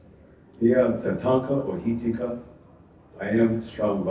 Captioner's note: speaking Ojibwe